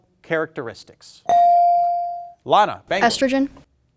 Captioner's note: bell dings